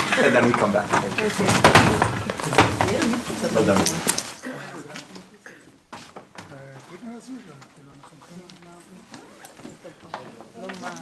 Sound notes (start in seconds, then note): 5.8 indistinct conversation